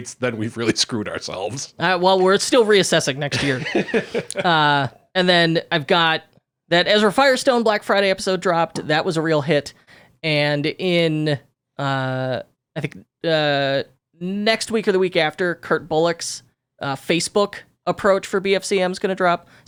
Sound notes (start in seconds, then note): 3.2 laughing